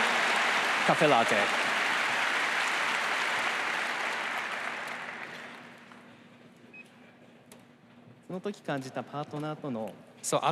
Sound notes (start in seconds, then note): 4.0 applause